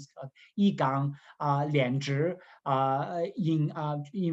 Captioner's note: speaking in Mandarin